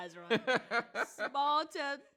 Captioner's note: chuckles; laughs